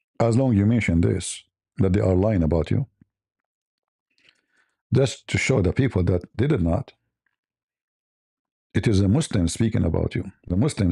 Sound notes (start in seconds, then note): none